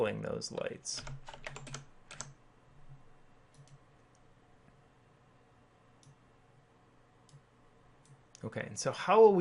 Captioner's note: clicking On Screen